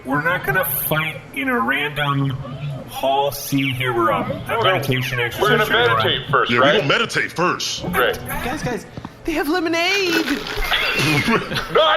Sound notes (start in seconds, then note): 8.1 in the most delighted voice; 10.0 laughs